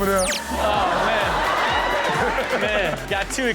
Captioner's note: audience laughing